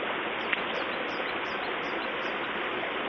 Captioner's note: bird singing